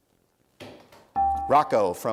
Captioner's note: dinging